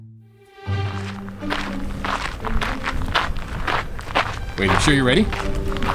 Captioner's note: suspenseful music; footsteps crunching